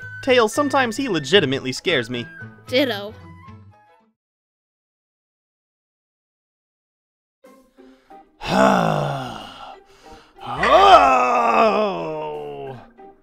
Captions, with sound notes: Tails, sometimes he legitimiately scares me. Ditto. *sighs* *more intense sigh*